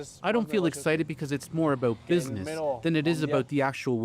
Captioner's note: speaking alternate language